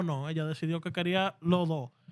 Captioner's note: speaking Spanish